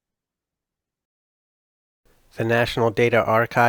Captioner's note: voiceover